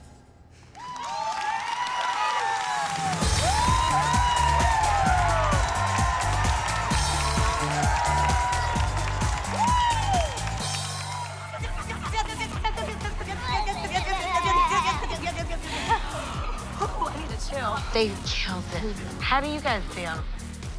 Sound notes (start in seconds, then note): 0.1 cheering; 11.1 squealing